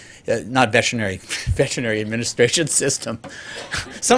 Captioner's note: laughter